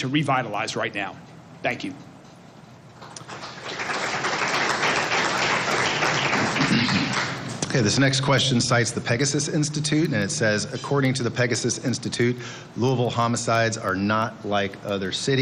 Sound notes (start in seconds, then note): 7.4 applause